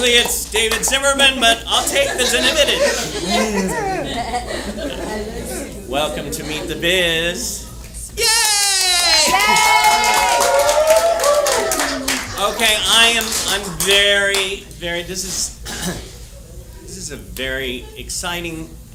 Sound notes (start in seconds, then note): 10.4 applause